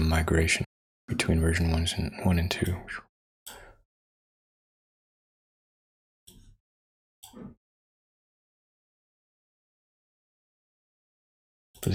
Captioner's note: silence